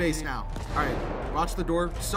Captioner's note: shots nearby